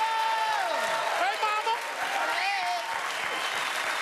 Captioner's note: cheers and applause